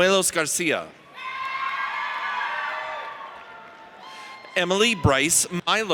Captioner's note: audience cheers